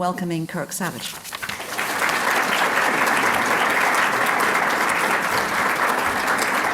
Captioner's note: applause